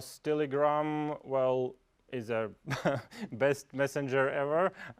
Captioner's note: laugh